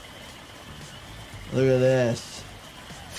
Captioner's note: water gushing; insects chirping